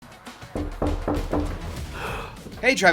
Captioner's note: knocking on Door